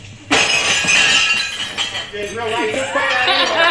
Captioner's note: glass breaking; laughs